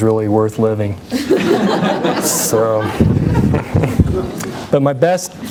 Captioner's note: laughter